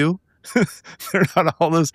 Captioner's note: laughing